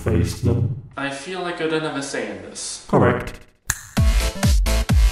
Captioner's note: snaps Fingers